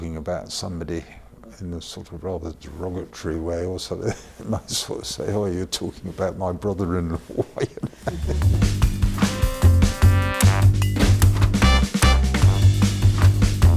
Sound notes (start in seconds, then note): 4.2 laughs; 6.8 laughs; 8.1 upbeat rhythmic music